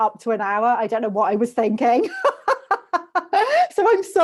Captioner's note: laughs